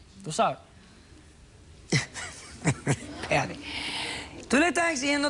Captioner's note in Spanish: riendo